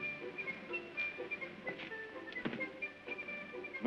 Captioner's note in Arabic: موسيقى غريبة; يُغلق الهاتف; موسيقى غريبة